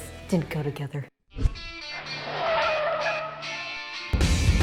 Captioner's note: tires screeching